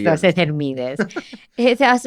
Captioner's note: he laughs